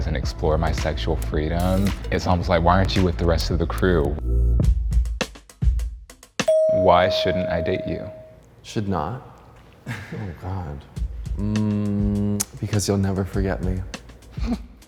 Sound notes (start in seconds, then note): 4.8 upbeat music; 6.4 bell dings; 14.6 chuckles